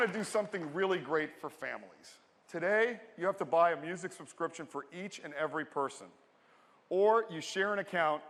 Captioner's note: applause